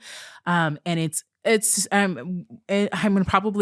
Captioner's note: stammering